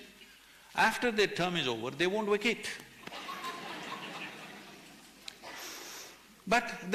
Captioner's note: laughter